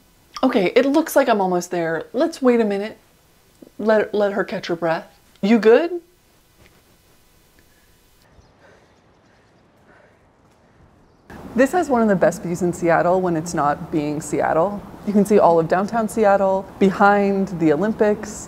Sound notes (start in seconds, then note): 8.3 panting